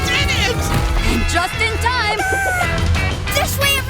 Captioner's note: clucking